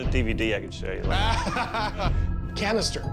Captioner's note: laughs